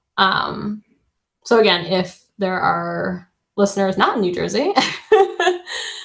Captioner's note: laughs